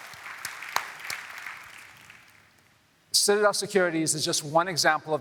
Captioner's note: applause